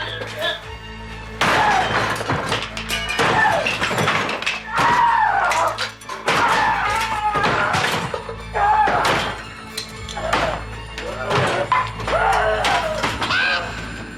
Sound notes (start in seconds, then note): 0.1 Roger grunts; 1.3 Roger shouting angrily over cracking and rattling wood; 12.1 raven cawing; 12.2 Roger grunts angrily